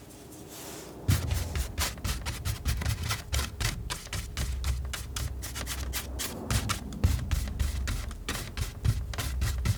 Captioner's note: scratching